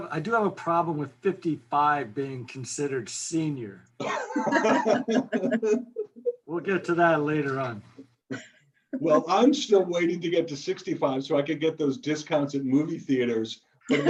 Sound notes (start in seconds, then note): 4.0 laughs